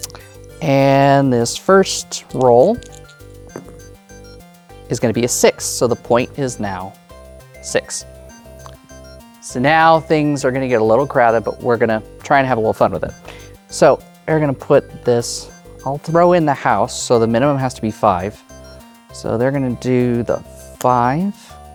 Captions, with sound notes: And, this first roll... (dice rattling) (dice rolling) is gonna be a 6. So, the point is now 6. So, now, things are gonna get a little crowded, but we're gonna try and have a little fun with it. So, we're gonna put this-- I'll throw in the house. So, the minimum has to be 5. So, they're gonna do the 5.